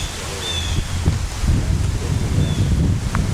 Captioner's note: wind